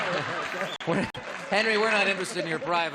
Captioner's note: chuckling; applause